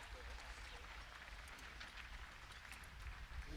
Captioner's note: applause